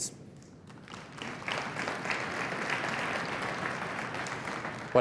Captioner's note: applause